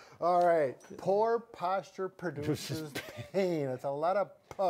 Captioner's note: laughs